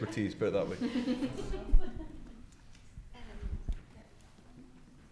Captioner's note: attendees giggling